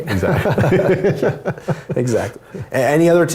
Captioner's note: laugh